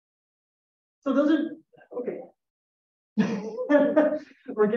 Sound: laughs

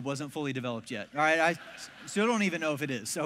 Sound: congregation laughs

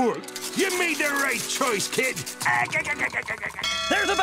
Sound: laughing

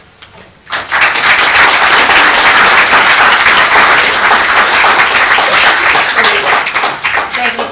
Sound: applause

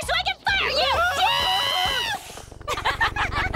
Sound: the spies laugh

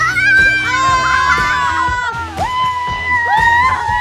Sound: cheering

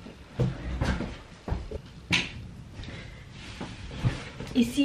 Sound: footsteps

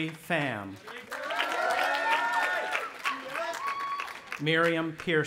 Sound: audience applauding and cheering

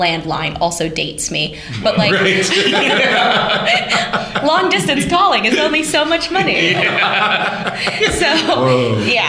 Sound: laughter

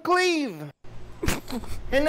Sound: laughter

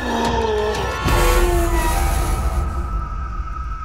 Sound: roars

